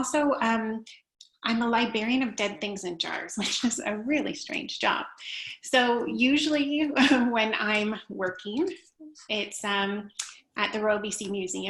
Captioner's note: laughter